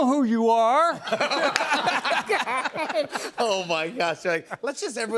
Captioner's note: laughter